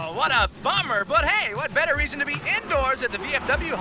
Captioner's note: voiceover